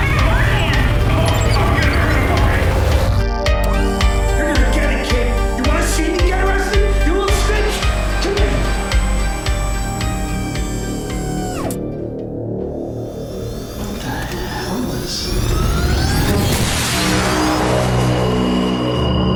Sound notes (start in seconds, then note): 0.2 Joseph shouting; 0.2 radar beeping; 3.6 robot whirring; 9.5 robot whirring; 10.9 tense suspenseful music; 16.5 lasers zapping